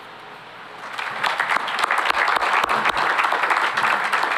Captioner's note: applause